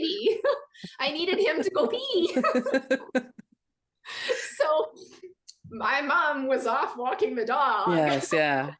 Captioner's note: both laugh